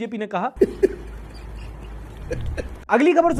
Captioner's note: laughs